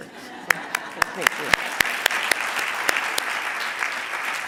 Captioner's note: audience applauding